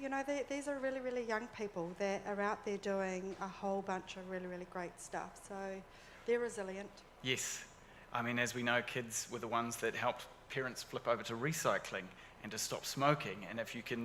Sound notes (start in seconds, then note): none